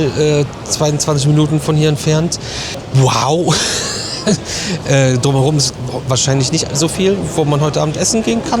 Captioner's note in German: gelächter